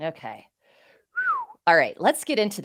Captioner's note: whistles